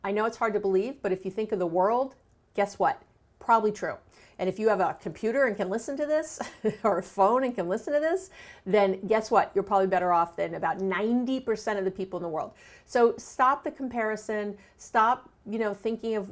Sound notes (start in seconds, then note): 6.4 chuckles